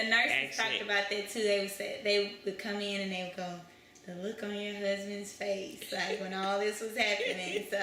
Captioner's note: laughter